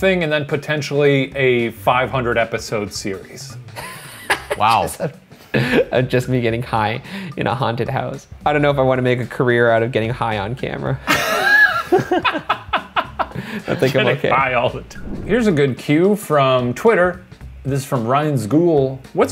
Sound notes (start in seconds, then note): 3.7 laughs; 11.0 laughter